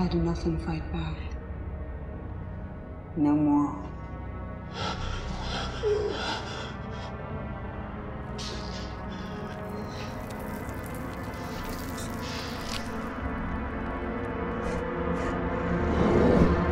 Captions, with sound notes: How long before you've had enough and fight back? No more. [Michael panting]